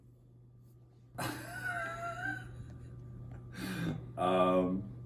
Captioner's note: laughter